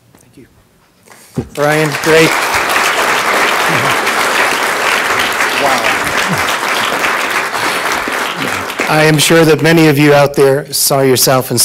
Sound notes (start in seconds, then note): 1.1 audience clapping